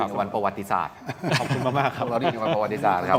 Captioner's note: laughs